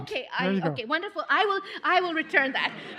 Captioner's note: laughter